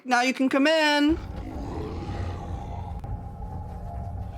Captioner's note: deep growl